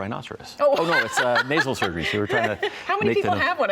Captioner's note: laughs